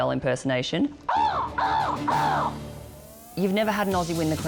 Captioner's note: cawing